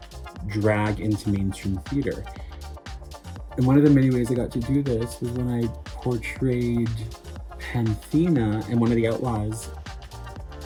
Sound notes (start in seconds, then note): none